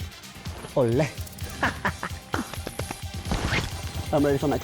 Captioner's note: laughs